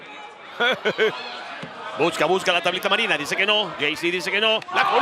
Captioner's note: laugh